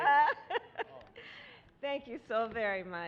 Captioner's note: laughter